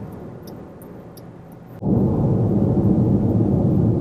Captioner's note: car signal clicking